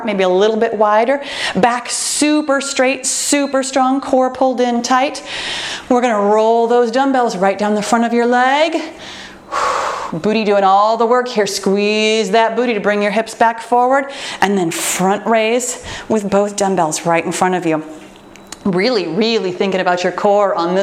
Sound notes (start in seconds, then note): 2.5 timer beeps; 8.9 exhales